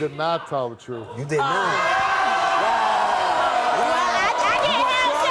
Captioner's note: audience jeering